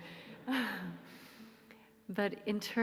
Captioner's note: soft laughter